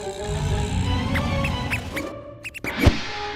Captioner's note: mouse squeaks